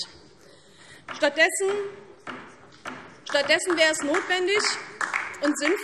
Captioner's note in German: Beifall DIE LINKE